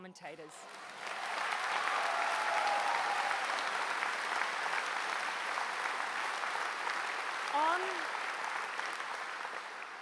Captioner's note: applause